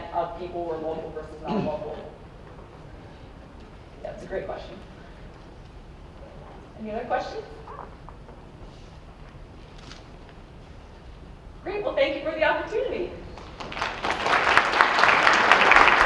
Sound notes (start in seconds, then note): 13.3 audience applauds